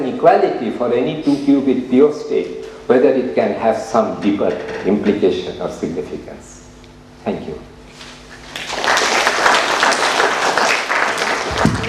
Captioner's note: clapping